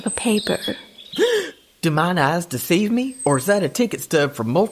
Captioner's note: gasp!